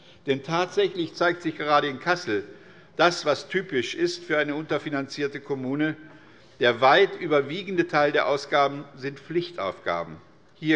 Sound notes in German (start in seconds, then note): none